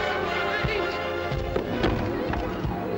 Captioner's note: yells for help; soft suspenseful music